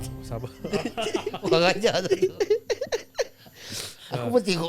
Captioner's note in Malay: ketawa